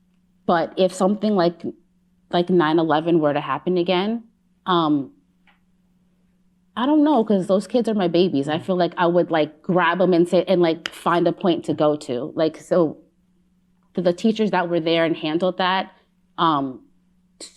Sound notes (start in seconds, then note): none